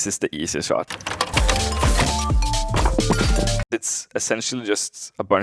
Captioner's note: upbeat music; overlapping sound effects